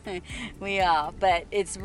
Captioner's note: laughs